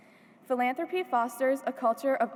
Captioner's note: none